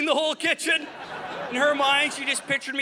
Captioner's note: audience laughing